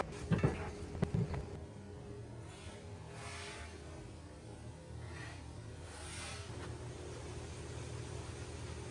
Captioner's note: sounds of machine; sounds of machine